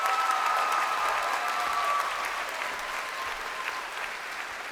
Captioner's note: crowd cheering